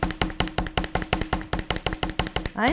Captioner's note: mounting Putty pounding